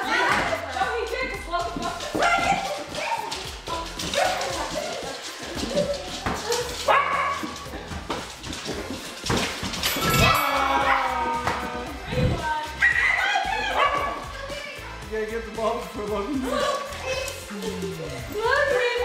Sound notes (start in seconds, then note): 6.3 dog barks; 9.8 bell chimes; 13.6 dog's bark drowns out other sounds